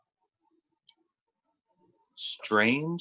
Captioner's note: licking